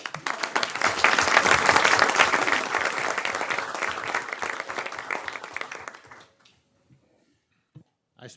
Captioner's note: applause